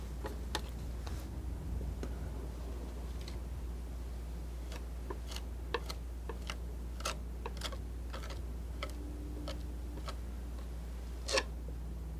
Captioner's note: scratching